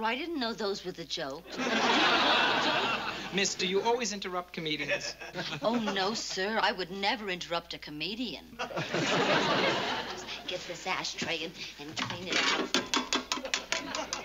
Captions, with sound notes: I didn't know those were the jokes. [LAUGHTER] Miss, do you always interrupt comedians? Oh, no, sir. I would never interrupt a comedian. I'll just get this ashtray and-- and clean it out.